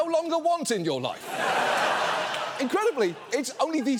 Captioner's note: studio audience laughs